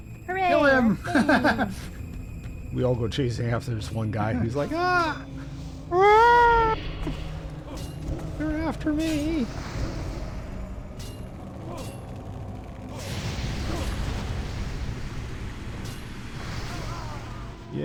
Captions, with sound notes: Kill him. [LAUGHTER] We all go chasing after this one guy. He's like, ah! [YELLING] They're after me.